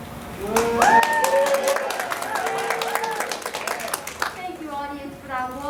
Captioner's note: cheers and Applause